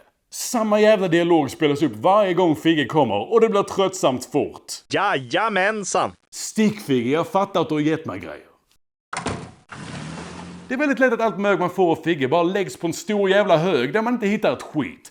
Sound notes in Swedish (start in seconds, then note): 9.2 Dörr som stängs och en bil som kör iväg